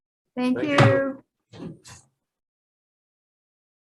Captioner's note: gavel bangs